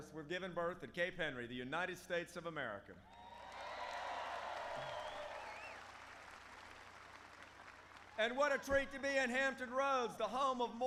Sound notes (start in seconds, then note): 3.1 applause